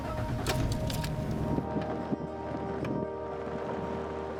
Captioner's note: truck starting